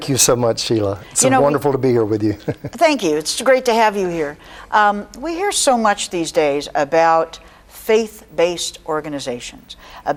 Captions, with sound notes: - Thank you so much, Sheila. It's wonderful to be here with you. (laughs) - Thank you, it's great to have you here. We hear so much these days about faith-based organizations,